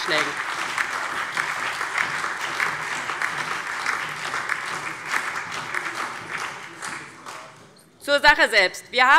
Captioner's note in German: Beifall DIE LINKE und BÜNDNIS 90/DIE GRÜNEN